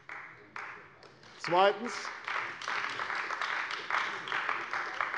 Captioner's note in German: Beifall bei der CDU